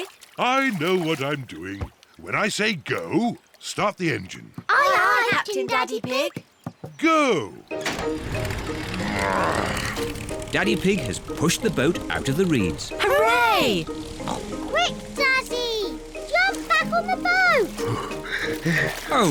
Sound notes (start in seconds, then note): 7.8 engine starts; 18.1 panting